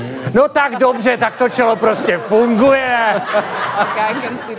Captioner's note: laugh